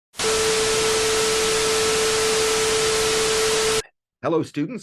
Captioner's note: TV Static Sounds